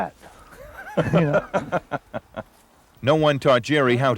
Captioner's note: Don laughs